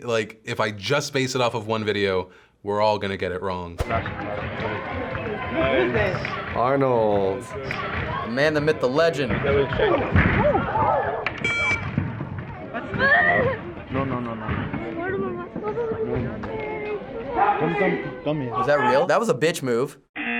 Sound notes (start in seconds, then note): 11.4 beep; 15.5 child whining; 20.2 buzzer